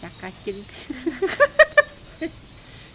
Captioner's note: laugh